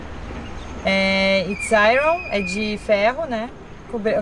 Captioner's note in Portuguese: Falando em inglês